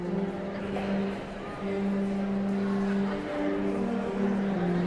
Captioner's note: audience chattering continues